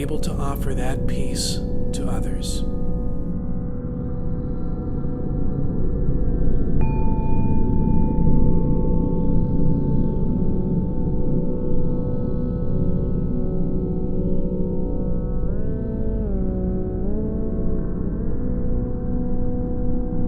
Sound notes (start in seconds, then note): 6.8 mindfulness bell sounds